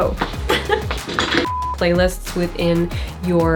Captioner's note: error beep